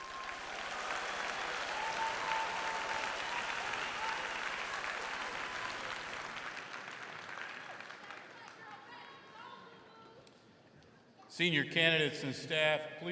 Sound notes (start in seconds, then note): 0.2 crowd cheering; 2.5 crowd clapping